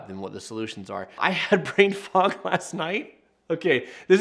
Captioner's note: laughs